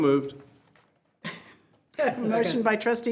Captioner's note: chuckles